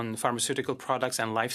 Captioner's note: speaking French